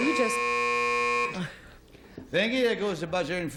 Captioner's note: buzzer